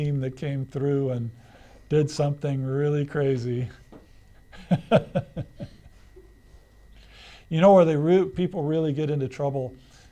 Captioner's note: laughs